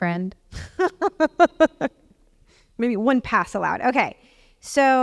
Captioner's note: laugh